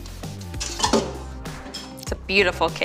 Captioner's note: pan clamoring